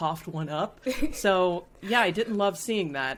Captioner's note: laughing